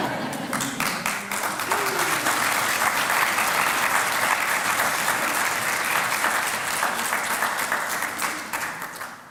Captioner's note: applause